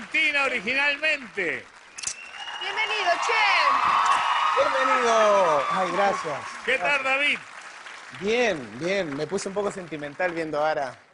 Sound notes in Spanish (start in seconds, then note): 3.5 Exclamaciones; 5.0 Gritos y exclamaciones